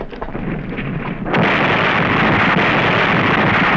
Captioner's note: blast